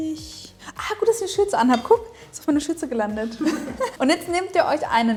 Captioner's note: laughing